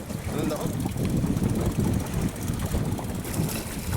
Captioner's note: wind blowing